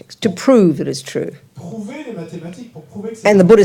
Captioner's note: French